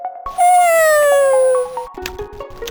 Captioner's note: yawn